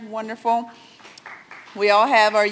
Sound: audience applauds

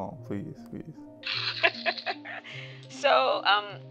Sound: mom laughing

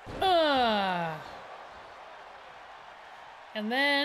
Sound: applause

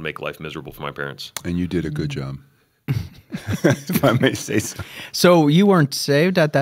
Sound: chuckle

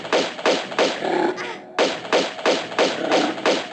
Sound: no time to describe all the noises but this guy growls

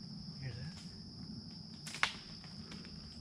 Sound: loud snap

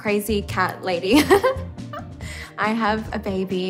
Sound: giggles

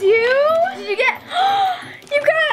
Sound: gasps

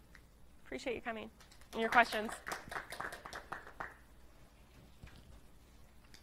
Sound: students applauding

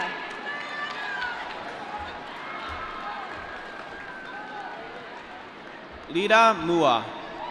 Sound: applause

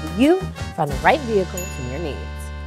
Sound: ding sound

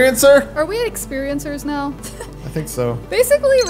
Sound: laughs

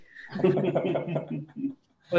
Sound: laughter

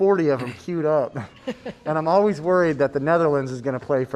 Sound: laughter

